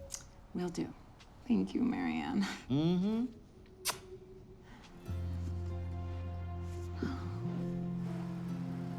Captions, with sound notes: I'm around. Will do. Thank you, Marianne. Mm-hmm. [kisses]